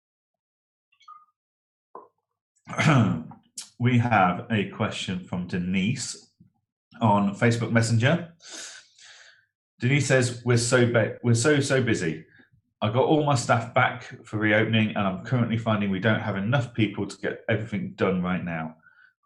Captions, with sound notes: (clears throat) We have a question from Denise on Facebook Messenger. Denise says, "We're so busy, I got all my staff back for reopening and I'm currently finding we don't have enough people to get everything done right now,